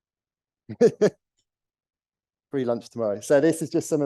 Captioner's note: laughs